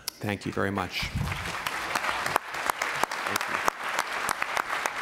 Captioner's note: applause